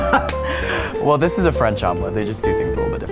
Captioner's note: laughs